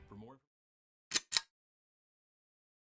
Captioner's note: click